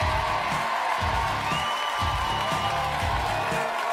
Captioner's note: audience cheering